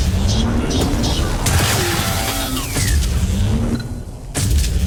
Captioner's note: gun firing